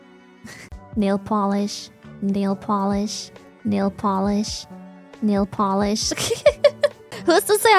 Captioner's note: laughs